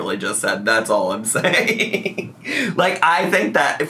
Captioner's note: laughs